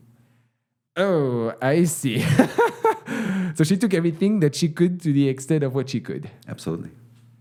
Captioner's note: laughing